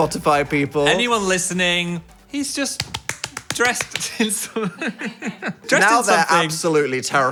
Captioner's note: laughing